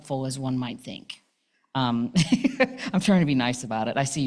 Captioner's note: laughing to the audience